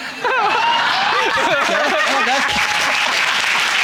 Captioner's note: all laughing; audience applauding